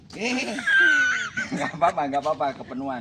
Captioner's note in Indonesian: tertawa